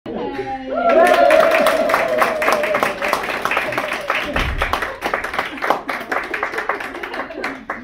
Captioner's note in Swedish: Applåder och jubel